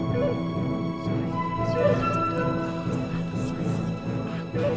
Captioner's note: celtic whispered voices